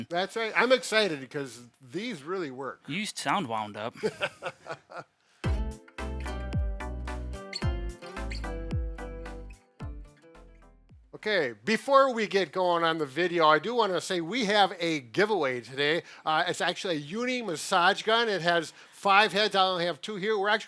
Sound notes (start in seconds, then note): 3.9 laughs; 5.4 upbeat music